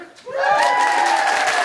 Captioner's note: audience cheering; audience applauding